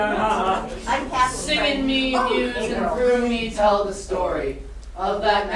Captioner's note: chanting